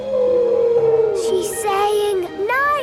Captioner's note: whale calling